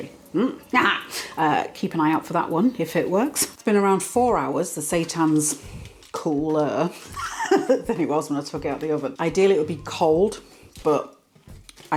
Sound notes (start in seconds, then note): 7.1 laugh